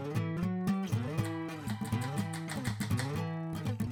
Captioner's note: chopping